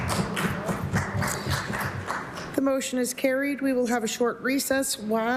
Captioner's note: some Applause